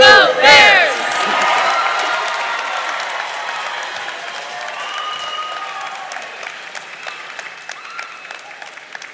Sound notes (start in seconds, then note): 0.6 crowd claps; 1.6 crowd cheers